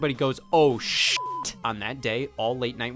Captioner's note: beep